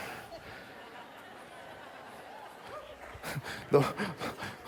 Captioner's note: laughter